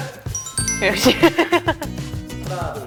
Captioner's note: ㅋㅋㅋㅋㅋㅋㅋㅋㅋㅋ